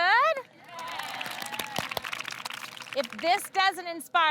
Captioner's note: girls clapping